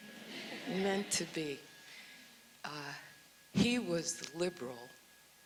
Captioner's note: audience sighs